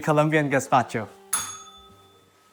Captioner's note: bell rings